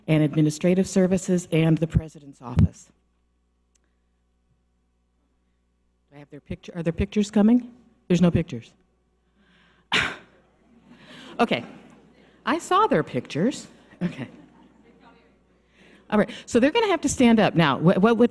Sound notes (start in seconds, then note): 9.9 scoffs; 10.6 audience laughs